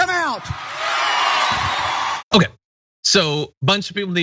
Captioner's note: applause